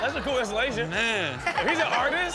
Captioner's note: Chanel laughing